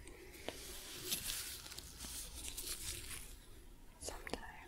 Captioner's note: sticky sounds